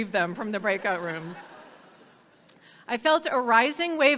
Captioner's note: audience laughs